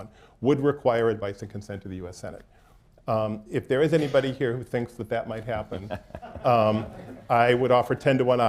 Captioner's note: laughter